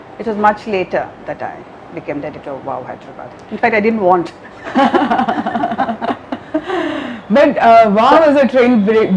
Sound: laughs

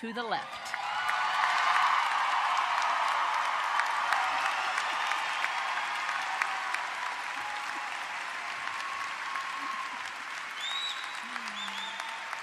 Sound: applause

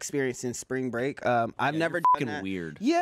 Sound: beep

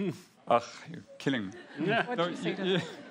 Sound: laughs

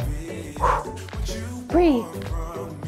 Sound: exhales

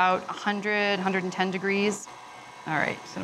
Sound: mixer whirring

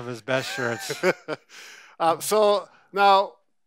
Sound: laughs

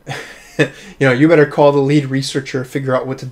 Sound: laughs

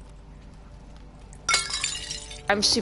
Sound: glass shattering

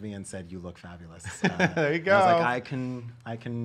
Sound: laughter

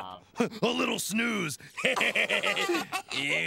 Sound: Leona and Theo laugh

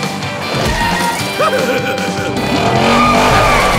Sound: chuckling

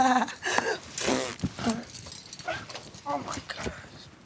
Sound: laughs; blow raspberries

